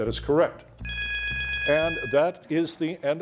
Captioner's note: bell chiming